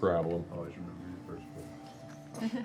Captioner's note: whispers